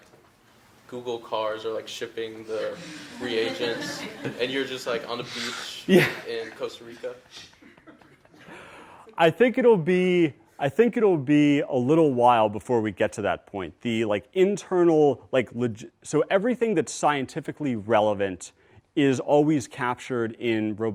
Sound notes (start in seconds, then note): 8.3 laughs